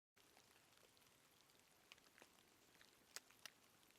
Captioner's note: rain falling